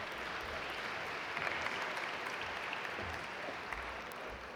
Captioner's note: audience applaud